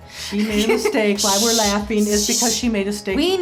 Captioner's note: shushing